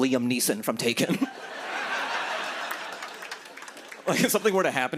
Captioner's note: laughter